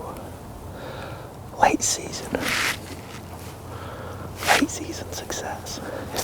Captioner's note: whispering